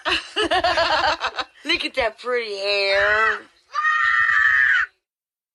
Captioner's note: yells